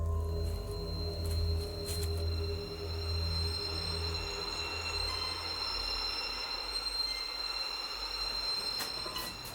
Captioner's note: eerie music; bell ringing